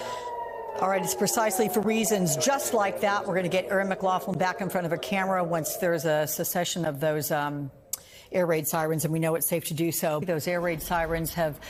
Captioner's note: sirens